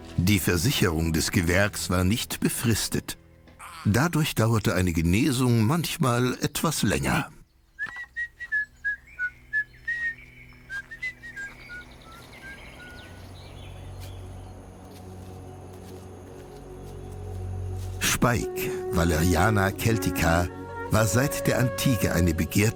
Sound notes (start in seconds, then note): 7.8 cheerful whistling